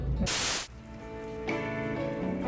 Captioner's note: static